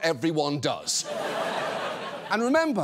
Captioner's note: audience laughs